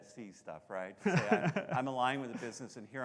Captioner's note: laughing